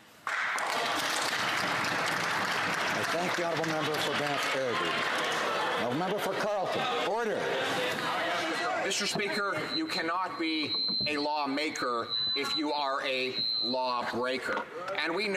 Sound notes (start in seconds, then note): 3.8 some Applause